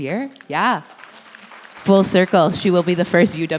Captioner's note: applause